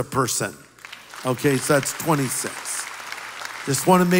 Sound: applause

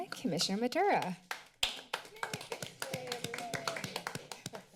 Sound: applause

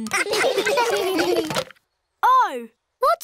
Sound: laughter

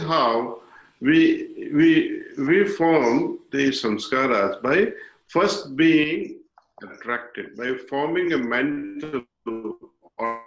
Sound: impressions

